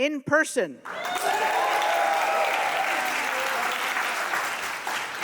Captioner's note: audience cheering